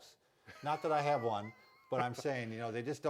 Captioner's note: laughing